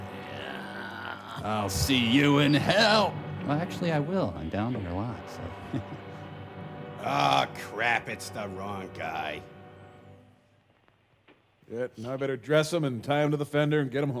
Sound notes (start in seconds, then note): 3.4 crowd cheering